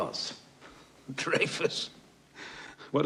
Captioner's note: chuckles